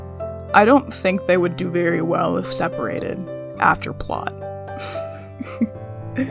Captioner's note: laugh